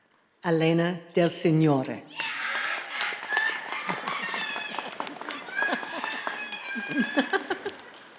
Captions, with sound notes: Elena Del Signore. (audience applauding and cheering)